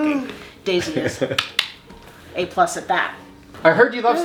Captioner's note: clicks tongue